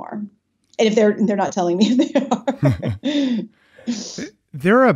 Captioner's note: laughing